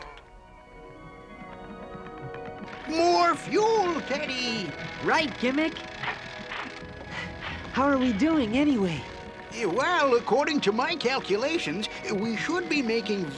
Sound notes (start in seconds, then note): 6.0 panting